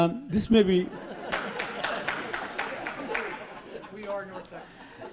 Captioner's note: laughs; applauds